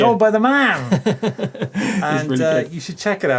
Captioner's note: laughing